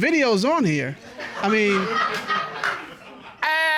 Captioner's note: laughter